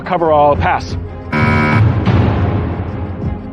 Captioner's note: buzzer sounds